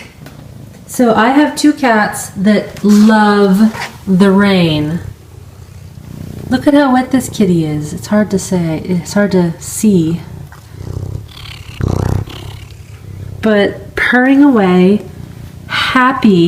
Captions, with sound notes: I have two cats that love the rain. Look at how wet this kitty is. It's hard to see, (cat purring) but purring away happy, so happy.